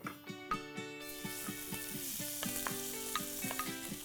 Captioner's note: sizzling